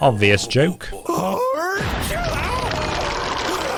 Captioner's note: sneezes violently